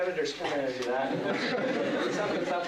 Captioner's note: laughter